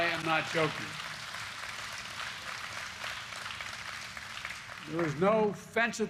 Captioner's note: applause